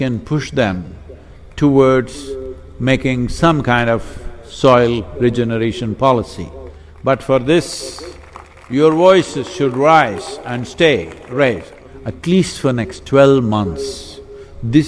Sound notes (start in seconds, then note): 6.6 applause